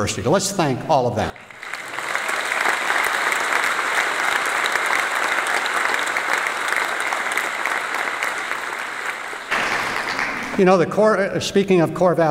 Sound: applause

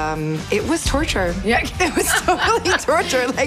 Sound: laughs

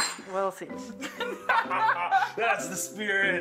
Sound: both laugh

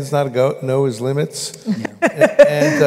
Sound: laughter

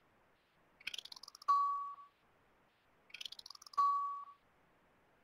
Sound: voiceover; ringing

